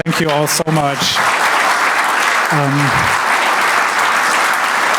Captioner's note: audience applauding